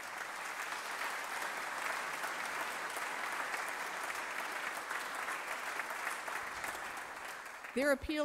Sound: applause

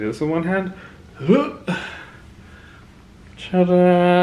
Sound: groans

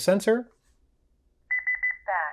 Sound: allarm beeps

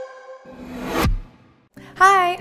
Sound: air whooshing

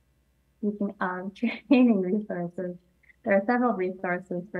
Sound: chuckling

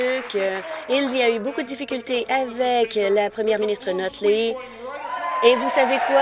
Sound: applause

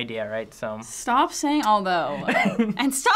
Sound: laughs

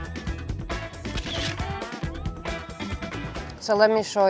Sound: upbeat music; camera shutter whirring

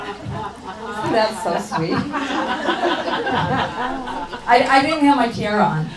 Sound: audience laughs

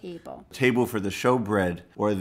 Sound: voiceover

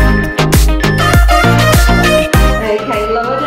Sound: countdown timer beeping

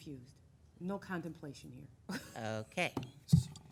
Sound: laughing

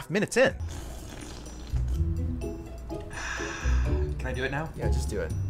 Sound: slurping soda

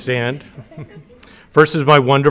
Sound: audience laughing

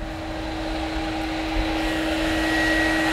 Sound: buzzing

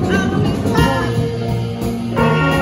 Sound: horns blast

